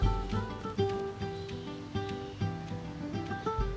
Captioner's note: faint traffic sounds